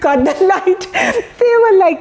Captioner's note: laugh